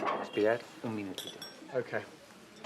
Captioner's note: berbicara bahasa spanyol